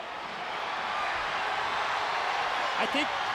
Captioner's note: crowd cheering